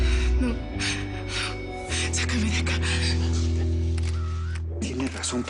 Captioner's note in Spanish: Sollozando